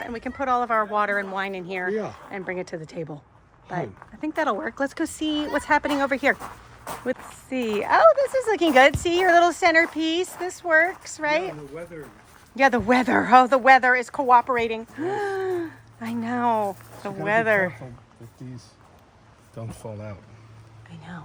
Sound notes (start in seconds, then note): 14.9 gasping